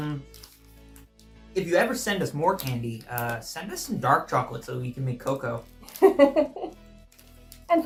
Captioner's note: laughs